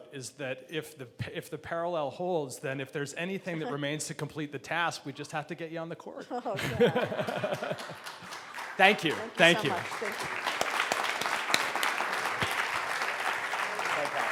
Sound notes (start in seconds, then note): 6.2 laughing; 8.7 clapping; 12.6 clapping